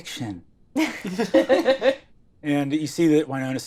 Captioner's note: laughing